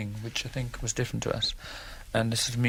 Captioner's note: none